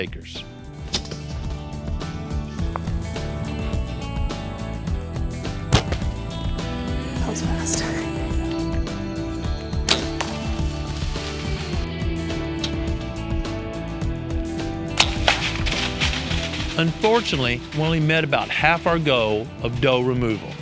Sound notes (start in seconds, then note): 5.5 whispering